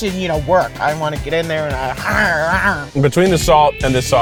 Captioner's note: growls